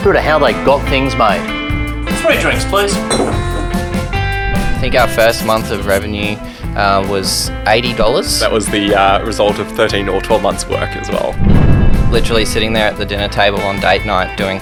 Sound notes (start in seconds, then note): 3.3 bottles clang